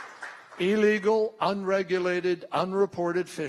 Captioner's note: applause